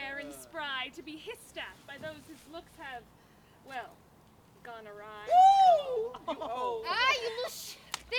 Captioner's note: Merry whoops